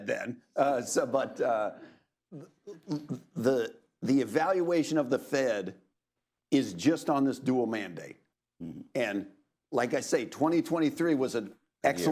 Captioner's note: laughter